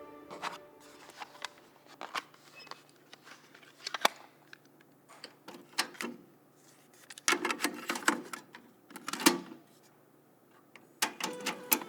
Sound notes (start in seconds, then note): 0.9 plastic rustles softly; 5.6 recorder clacks and clicks